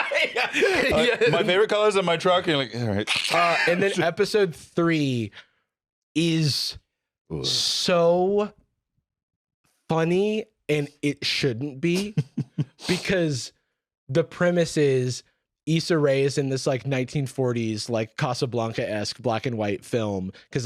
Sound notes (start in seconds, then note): 2.7 laughs; 11.9 chuckles